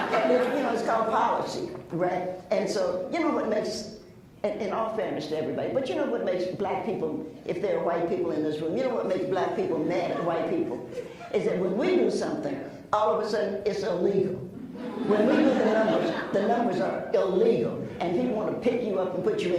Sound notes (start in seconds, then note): 0.0 laughs; 14.6 laughs